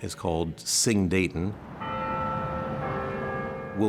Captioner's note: bell chiming